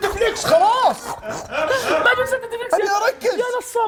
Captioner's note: laughing